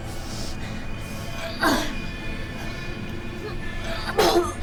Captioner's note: grunting; vomiting